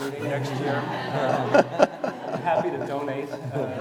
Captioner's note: audience laughing